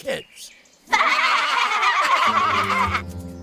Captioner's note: laughing